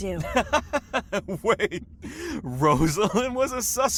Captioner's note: laughs